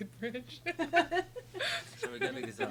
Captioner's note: laughs; laughing